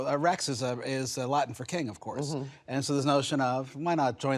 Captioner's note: speaks foreign language